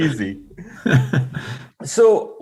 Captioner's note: laughing